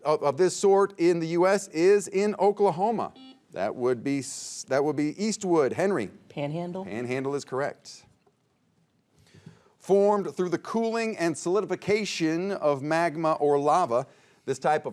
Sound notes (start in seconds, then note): 3.1 buzzer beeping